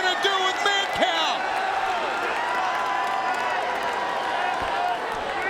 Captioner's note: audience cheering